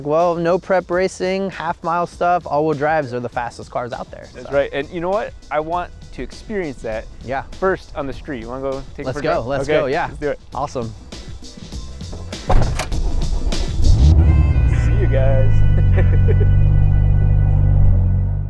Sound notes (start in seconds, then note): 16.5 laughs